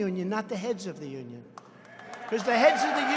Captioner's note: applause